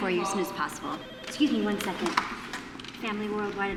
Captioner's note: phone rings